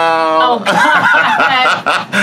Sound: laugh

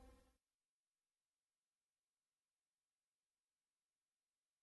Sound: silence

